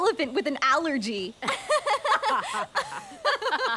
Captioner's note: laughing